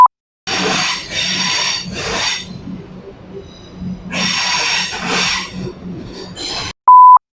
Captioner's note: loud Train Braking On Track